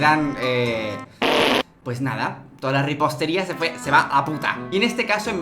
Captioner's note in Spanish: sonido de gas